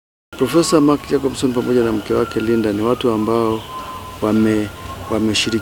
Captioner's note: reverend speaks in foreign language